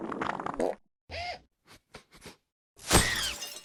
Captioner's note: the room falls silent. sniff sniff sniff